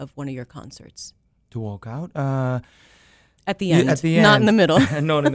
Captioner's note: laughter